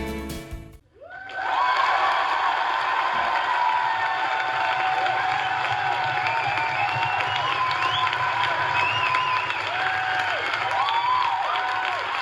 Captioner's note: audience cheers